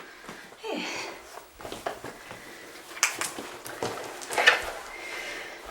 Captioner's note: none